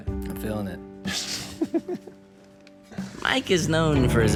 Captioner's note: laughs